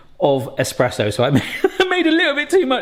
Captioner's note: chuckles